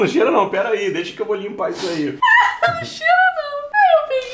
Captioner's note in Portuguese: rindo